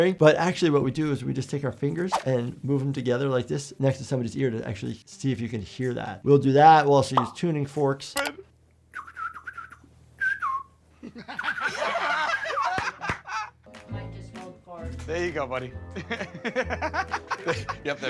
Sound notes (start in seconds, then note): 10.1 whistles; 11.0 laughs; 16.0 laughs